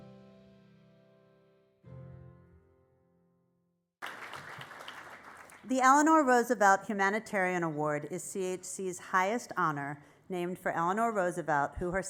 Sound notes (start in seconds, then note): 1.2 applause